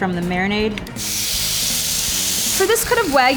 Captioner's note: pan sizzling